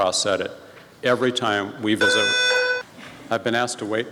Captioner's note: fire drill alarm